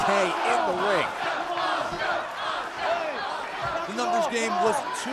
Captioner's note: crowd cheering